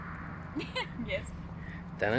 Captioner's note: awkward Laughter